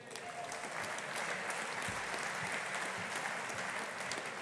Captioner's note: audience applauding